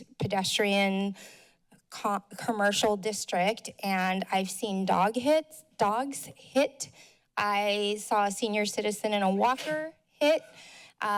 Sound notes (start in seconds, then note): none